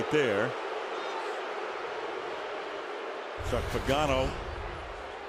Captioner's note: booing